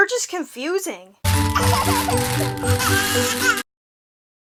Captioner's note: baby laughs and then cries